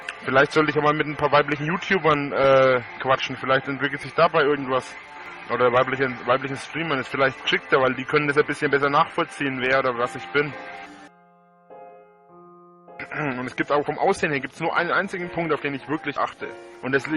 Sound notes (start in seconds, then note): 13.0 clears throat